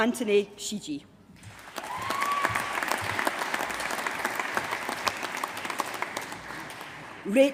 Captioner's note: applause